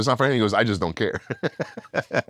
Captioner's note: laugh